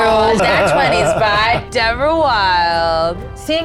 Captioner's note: laughing